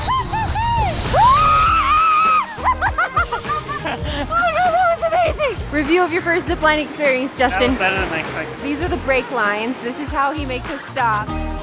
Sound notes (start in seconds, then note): 0.0 terrified screams; 2.5 laughter